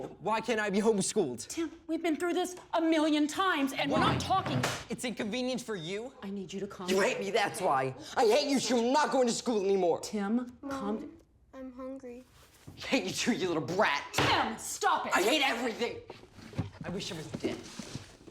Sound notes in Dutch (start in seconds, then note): none